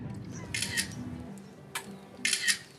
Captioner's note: camera clicking